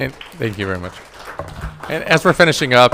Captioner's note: all applauding